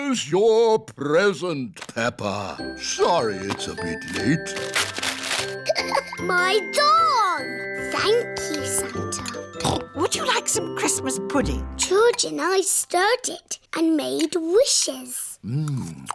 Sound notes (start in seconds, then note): 5.6 laughs; 9.6 snorts